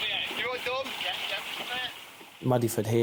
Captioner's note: rescuers chatting